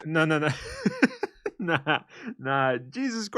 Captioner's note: laughter